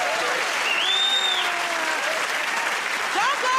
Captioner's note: cheers and applause; whistles